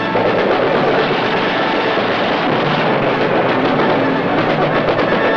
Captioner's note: dramatic music; gunshots firing